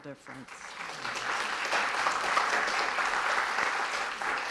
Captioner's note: audience applauding